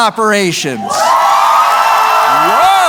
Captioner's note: cheering